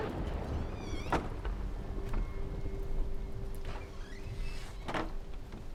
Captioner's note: thunder cracking; door clattering and creaking